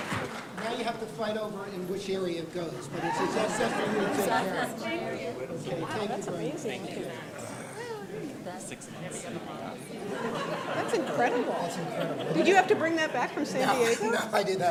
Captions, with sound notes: Now you have to fight over in which area it goes. [laughter] That's incredible. Did you have to bring that back from San Diego?